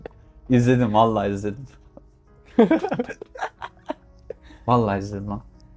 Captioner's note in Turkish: kahkaha